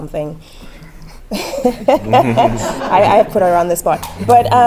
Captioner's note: laugh